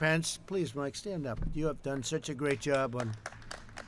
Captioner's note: applause